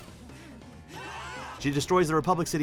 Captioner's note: screaming